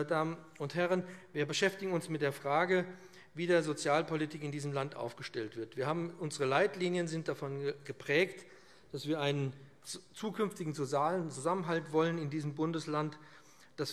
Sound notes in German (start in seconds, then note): none